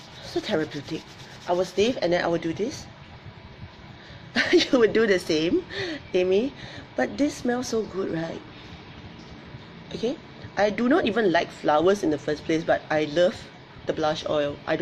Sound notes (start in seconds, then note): 4.5 laughs